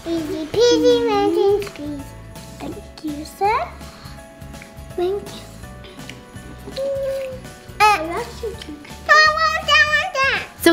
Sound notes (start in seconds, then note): 6.4 kids chattering; 6.6 Blake squawks